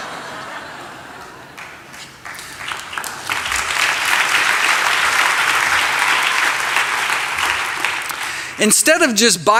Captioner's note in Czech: Smích, potlesk